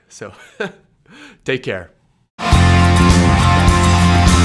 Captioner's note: laughs